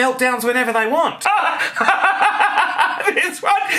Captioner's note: laughing